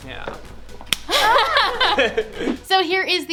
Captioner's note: laughing